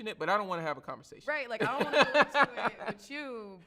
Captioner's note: laughs